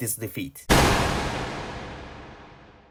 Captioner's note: glock sound